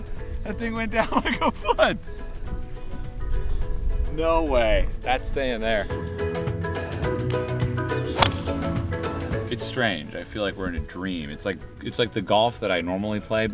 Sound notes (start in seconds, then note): 8.1 thwack